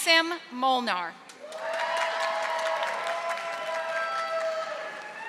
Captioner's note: audience applauding